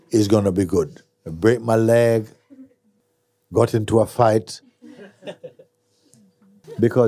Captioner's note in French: rires